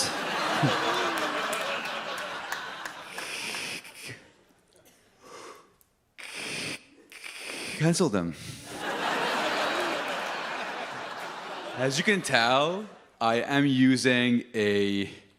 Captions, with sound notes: (audience laughs) -...cancel them. (audience laughs) As you can tell, I am using a